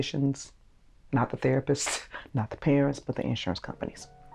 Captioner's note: scoffs